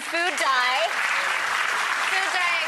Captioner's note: applause